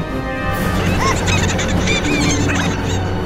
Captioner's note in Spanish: Vagones riéndose